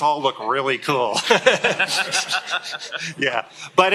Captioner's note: laughter